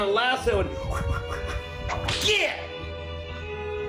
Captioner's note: cracking whip